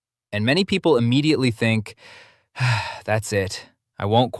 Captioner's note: sighs